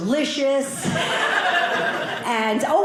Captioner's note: audience laughing